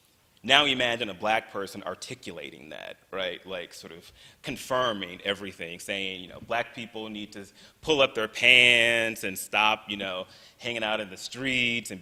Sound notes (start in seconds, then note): none